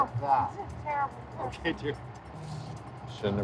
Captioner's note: laughing